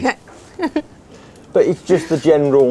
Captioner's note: chuckles